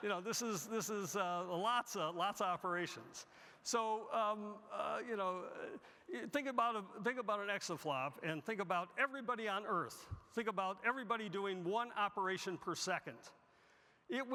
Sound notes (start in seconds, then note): none